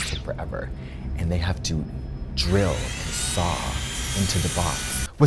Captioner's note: saw buzzing